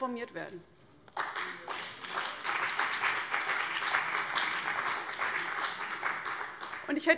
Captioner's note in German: Beifall BÜNDNIS 90/DIE GRÜNEN und vereinzelt CDU